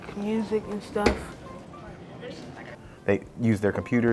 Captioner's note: students talking